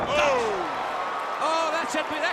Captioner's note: crowd cheering